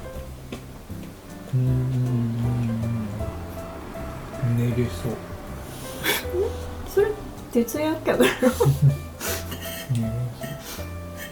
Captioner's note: laughs